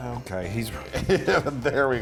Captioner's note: laughs